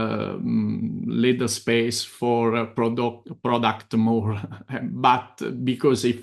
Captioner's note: chuckles